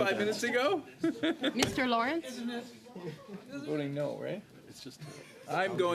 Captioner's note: laughter